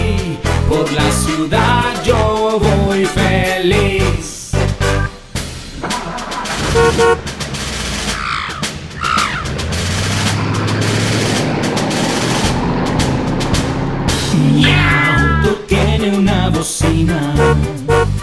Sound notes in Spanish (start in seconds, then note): 4.4 Sonido de Bocina; 4.5 Sonido de Motor y redoblante; 14.5 Sonido de gato; 17.3 Bocina